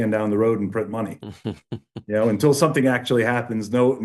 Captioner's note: laughs